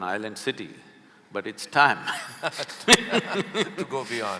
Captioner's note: laughter